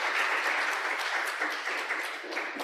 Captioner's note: applause